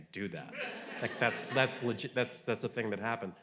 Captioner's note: audience laughing